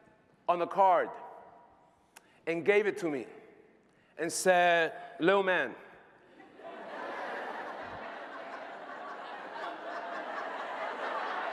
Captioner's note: laughter